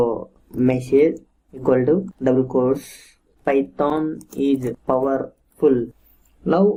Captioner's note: typing